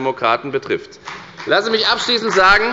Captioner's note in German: Beifall bei der FDP